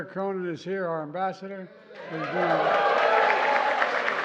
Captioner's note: applause